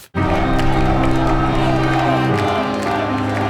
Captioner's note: chanting